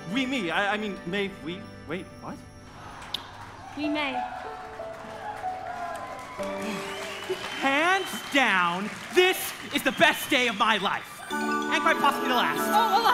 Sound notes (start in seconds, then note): 5.1 audience cheering